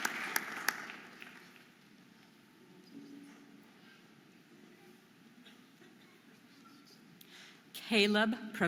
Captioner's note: audience applauding and cheering